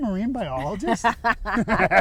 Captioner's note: laughing